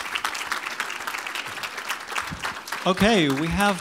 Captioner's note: applause